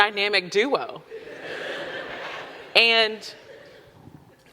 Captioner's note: audience laughing